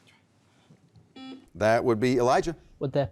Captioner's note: beep